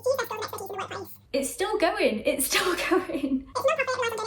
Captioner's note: sped up talking